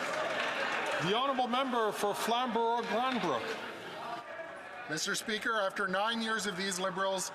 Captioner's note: some Applause